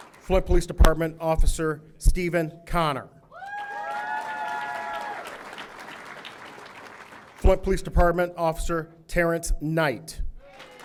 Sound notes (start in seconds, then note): 0.0 audience applauding; 3.3 audience cheering; 3.4 audience applauding; 10.4 audience applauding